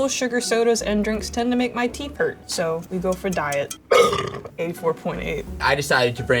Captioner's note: burping